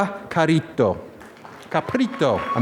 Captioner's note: applause